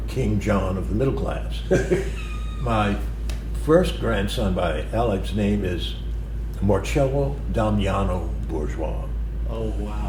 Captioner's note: laughter